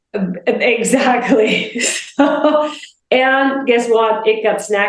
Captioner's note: laughs